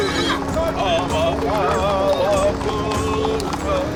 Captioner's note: chanting